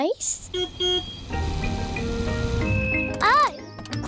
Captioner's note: car horn beeps